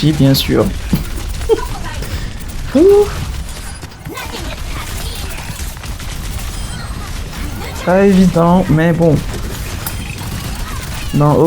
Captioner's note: laughs